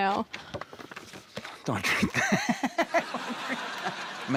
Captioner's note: laughs